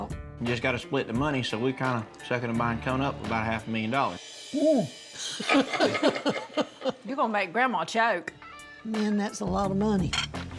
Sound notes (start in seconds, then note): 5.3 laughs